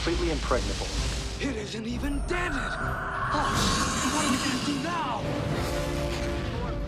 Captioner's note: bzzzt